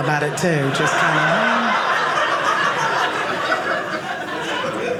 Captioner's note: audience laughing